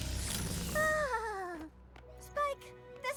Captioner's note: shiver